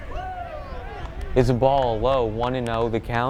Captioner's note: players cheer